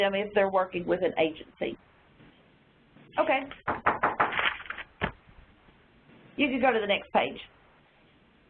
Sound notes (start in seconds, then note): 3.6 knocking on door